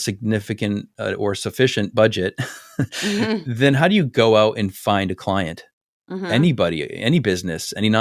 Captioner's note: laugh